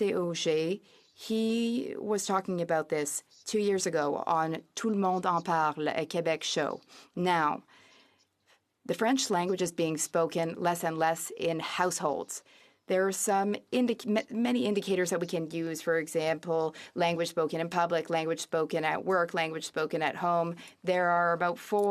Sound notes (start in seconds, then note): 8.4 speaking French